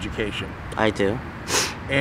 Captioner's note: sniffs